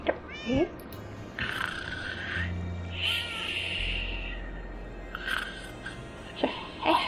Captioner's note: snores